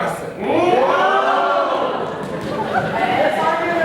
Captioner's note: animals cheer